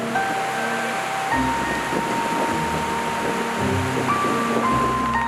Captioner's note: river gurgling